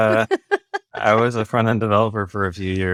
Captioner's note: laughs